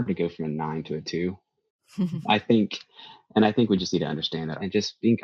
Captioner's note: chuckles